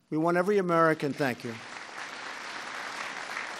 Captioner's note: applause